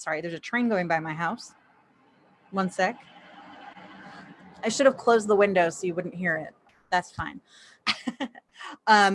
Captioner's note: chuckles